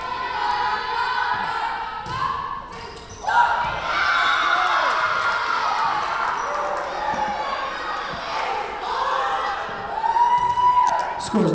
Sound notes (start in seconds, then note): 3.2 crowd cheering; 4.6 whistle blowing